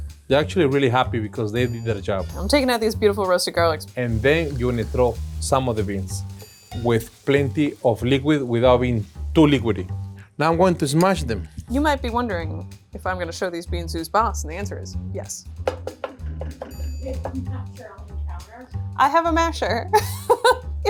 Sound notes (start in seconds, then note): 15.7 spoon tapping; 20.0 laughs